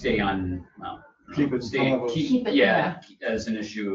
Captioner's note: overlapping chatter